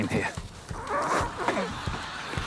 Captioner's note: groans